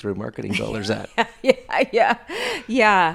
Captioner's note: laughing